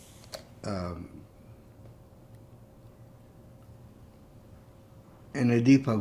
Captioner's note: pauses 6 seconds